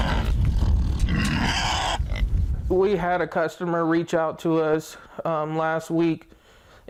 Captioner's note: pigs grunting